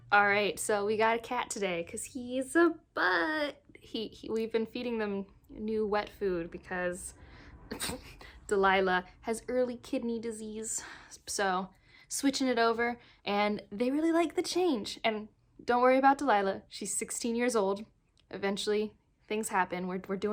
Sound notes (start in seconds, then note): 7.7 pft